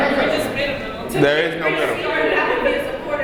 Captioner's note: crowd chuckles